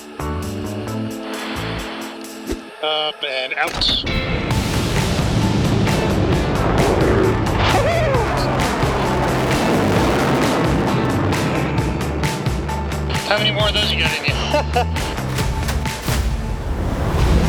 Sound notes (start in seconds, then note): 0.2 lively music; 4.3 jet whooshing; 7.5 laughs; 9.4 jet whooshing; 9.4 lively music; 14.2 laughs; 17.1 jet whooshing; 17.1 lively music